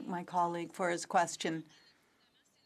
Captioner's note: speaking French